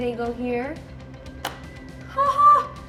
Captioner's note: piece snaps